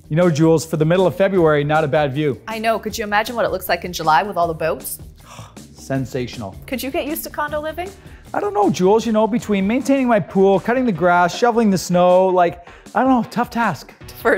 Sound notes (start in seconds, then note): 5.1 sighing